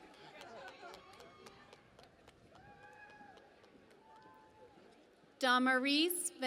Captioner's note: cheering and Applause